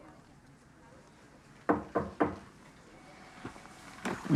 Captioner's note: knocking at door